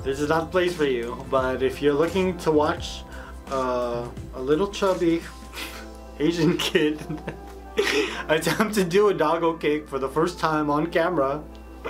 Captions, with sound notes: this is not the place for you, but if you're looking to watch a little chubby asian kid, (laughing) attempt to do a doggo cake for the first time on camera,